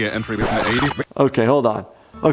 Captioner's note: record scratch